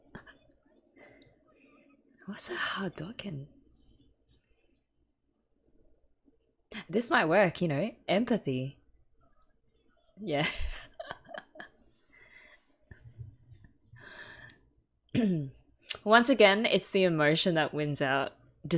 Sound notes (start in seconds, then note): 10.6 laughs